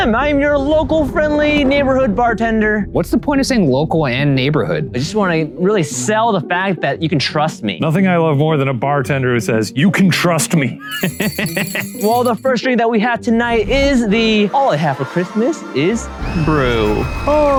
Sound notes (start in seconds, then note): 10.5 laughs; 10.8 bells jingle